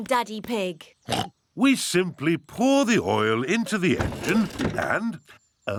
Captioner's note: oinks